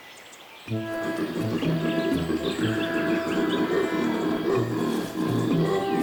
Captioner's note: birds chirping